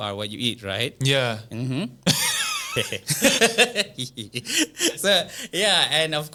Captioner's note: horny laughter